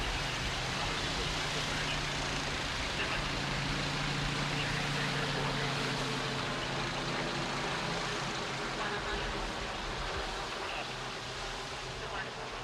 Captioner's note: police radio traffic